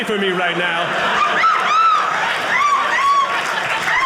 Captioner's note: audience laughing